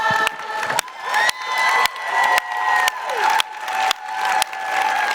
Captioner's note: applause